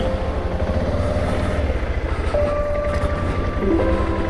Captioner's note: breathing heavily